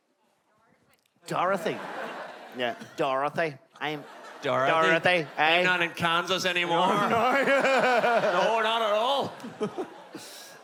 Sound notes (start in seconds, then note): 2.6 in an accent; 5.3 another accent; 6.6 laugh